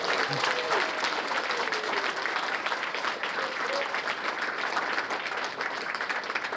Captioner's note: applause